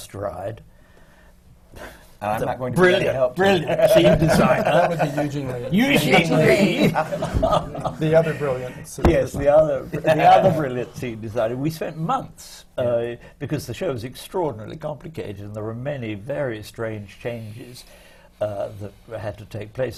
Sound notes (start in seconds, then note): 5.2 laughs; 9.5 laughter